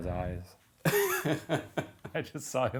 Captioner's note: laughing